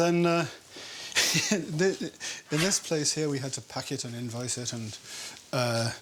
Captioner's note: laughs